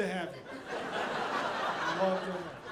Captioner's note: audience laughing